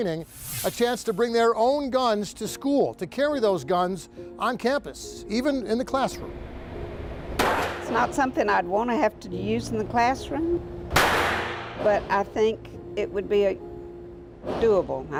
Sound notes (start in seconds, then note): 7.4 gun shot; 10.9 gun shot